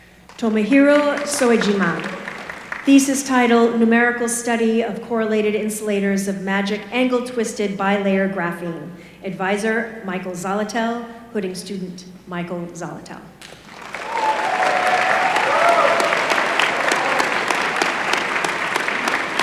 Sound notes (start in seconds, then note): 13.4 applause